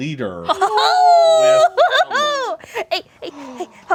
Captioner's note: group cheers